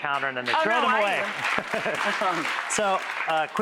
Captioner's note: audience clapping; laughing